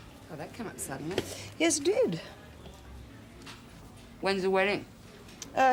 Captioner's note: none